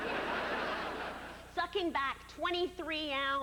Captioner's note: laughter